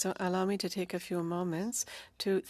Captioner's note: speaking French